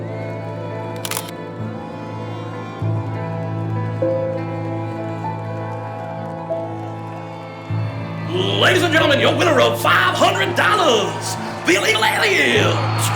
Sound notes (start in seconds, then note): 1.4 crowd cheers